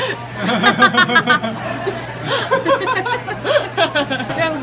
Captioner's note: laugh